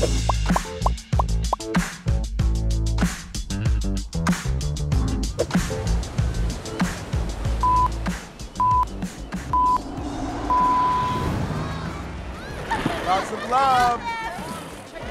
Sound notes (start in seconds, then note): 0.0 air popping; 7.8 electronic beeping